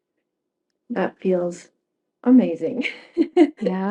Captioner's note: laughs